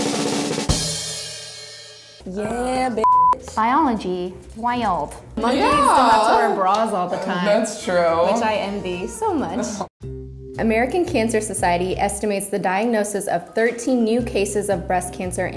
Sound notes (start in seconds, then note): 0.0 drum roll; 3.0 beep